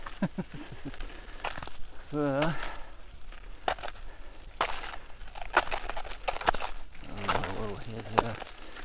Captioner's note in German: gelächter